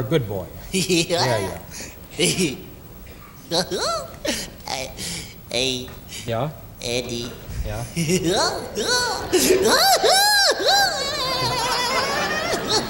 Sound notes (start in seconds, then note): 0.2 gigio giggling; 7.8 gigio laughing